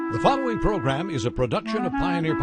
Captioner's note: slow music; voiceover